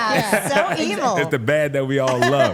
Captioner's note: Trick chuckling